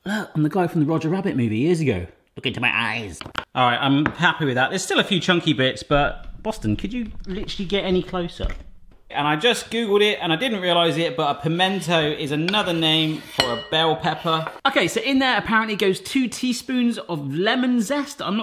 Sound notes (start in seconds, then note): none